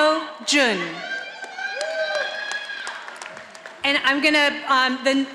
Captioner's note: audience applauding